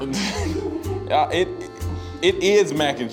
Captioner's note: laughs